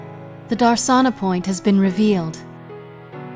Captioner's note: voiceover